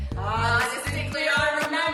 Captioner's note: in Unison